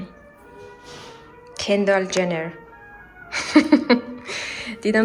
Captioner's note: laughs